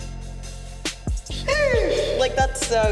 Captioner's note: exclaims